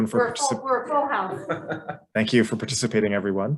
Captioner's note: laughs